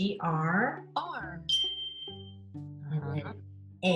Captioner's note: bell chimes